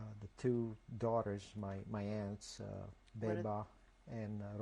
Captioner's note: non-english